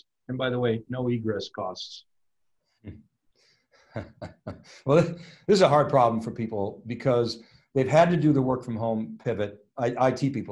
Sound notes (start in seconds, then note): 3.9 laughs